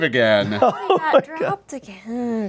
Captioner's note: laughing